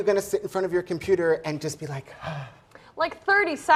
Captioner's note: sighs